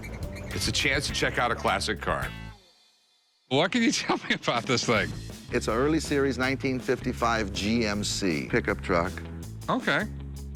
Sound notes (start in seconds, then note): none